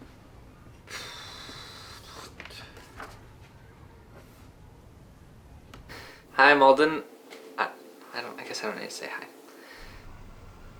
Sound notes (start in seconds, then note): 0.8 sighs